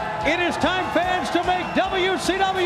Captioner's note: crowd cheering